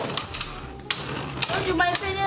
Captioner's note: metal and plastic clanking